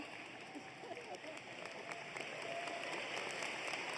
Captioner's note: applause